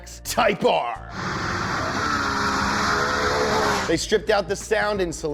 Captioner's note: engine revving